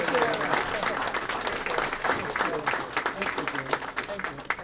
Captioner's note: applause